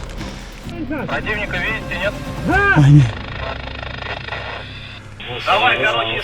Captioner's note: russian radio